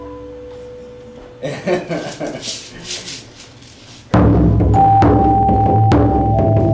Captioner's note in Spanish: Risas